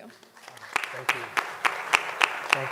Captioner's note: applause